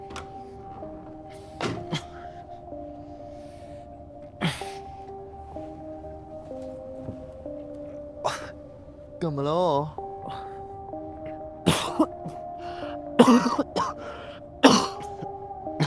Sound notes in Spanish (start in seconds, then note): 11.1 Yotha tosiendo